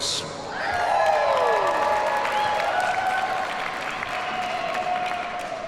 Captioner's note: audience cheers and applauds